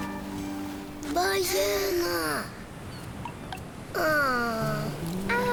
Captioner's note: speaking foreign language